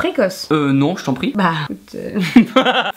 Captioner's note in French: Rires